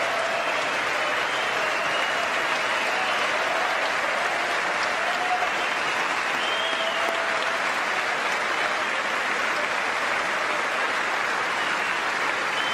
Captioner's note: applause